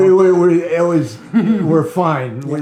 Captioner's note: laughing